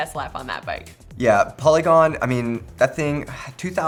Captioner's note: sighs